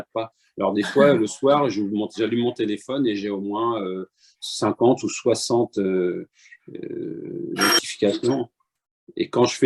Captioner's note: ring